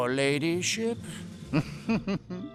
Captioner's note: chuckling